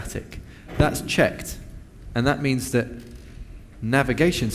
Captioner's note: Navigation Static